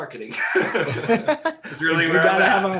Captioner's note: laughing